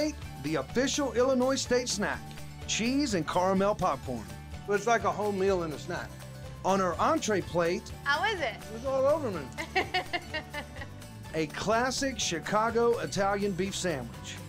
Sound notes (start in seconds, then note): 9.5 chuckling